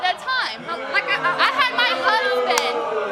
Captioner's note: audience jeering